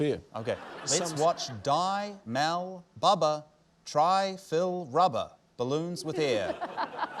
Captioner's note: laughter